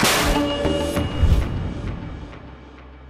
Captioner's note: dark sounds